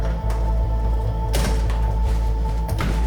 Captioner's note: door creaking; door slams; other door slams